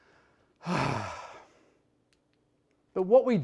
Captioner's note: sighs